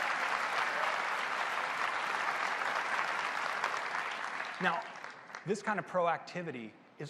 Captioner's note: applause